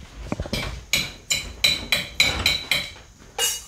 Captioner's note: metallic sound